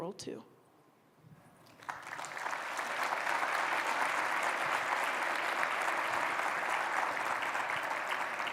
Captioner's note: applause